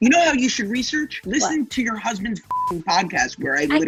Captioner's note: beep